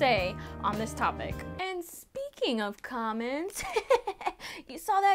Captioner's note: laughs